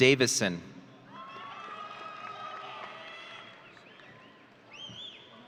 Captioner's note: audience cheering